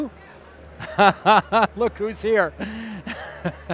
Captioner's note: laughing